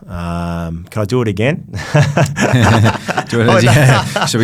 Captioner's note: laughs